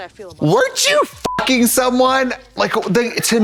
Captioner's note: beep